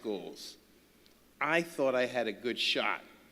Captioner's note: none